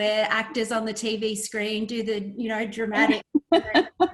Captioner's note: laughs